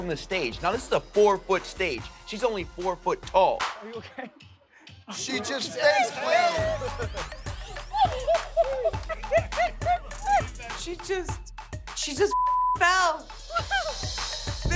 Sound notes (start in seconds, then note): 6.0 laughter; 12.3 beep